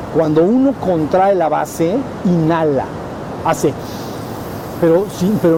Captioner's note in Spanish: inhala